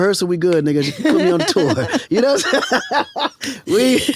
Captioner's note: host laughs; laughs